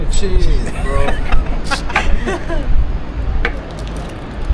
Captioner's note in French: rires